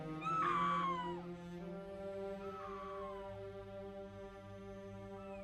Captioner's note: Cathy screaming faintly